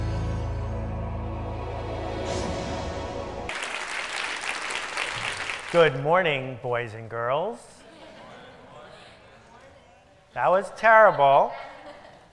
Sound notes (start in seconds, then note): 9.3 murmur